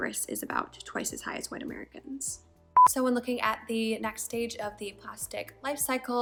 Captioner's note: beep